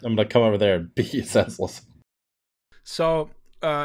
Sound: laughter

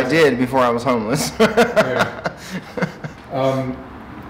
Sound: laughing

